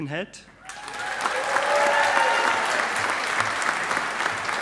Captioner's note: audience applauding